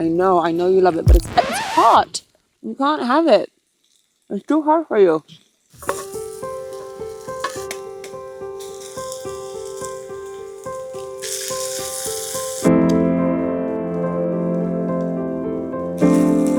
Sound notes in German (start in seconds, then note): 6.1 Feuer knistert; 12.8 sanfte Instrumentalmusik